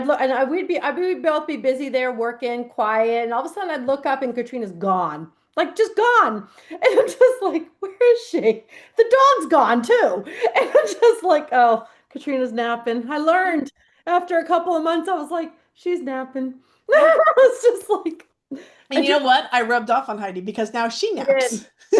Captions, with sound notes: l- and I would be, I, we'd both be busy there working, quiet, and all of a sudden I'd look up and Katrina's gone. Like, just gone. And I'm just like, "Where is she?" The dog's gone too. And I'm just like, "Oh, Katrina's napping." I learned after a couple of months, I was like, "She's napping." (laughs) I was just like... And- And you know what? I rubbed off on Heidi because now she naps.